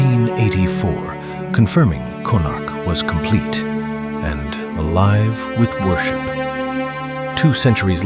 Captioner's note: thoughtful